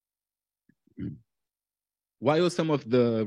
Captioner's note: clears throat